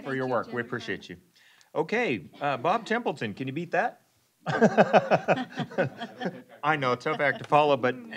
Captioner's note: laughing